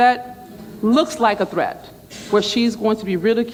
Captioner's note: murmurs